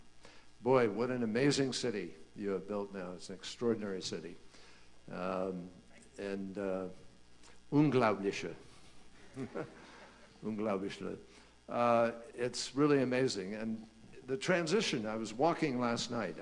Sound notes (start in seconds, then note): 8.6 in German; 9.3 laughter